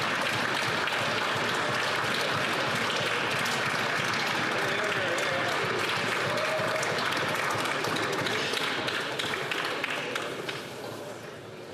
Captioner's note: some Applause